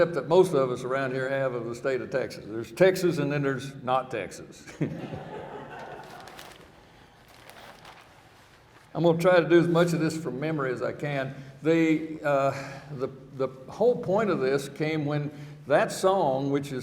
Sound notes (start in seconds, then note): 4.8 laughing